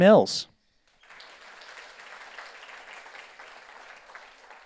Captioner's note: audience applauds